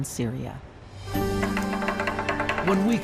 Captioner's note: stick tapping